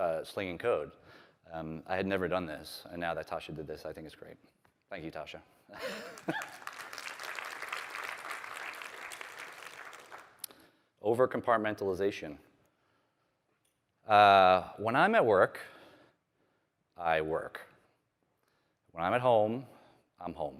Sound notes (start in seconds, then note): 5.8 applause